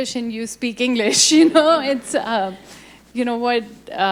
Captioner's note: laughs